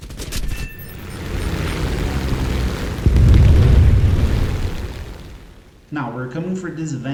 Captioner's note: aircraft Engines ,Gunfire, Flying Sounds